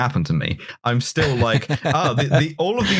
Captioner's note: laughs